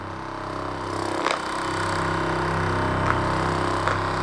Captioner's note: motor rumbling